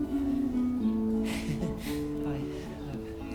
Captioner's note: chuckles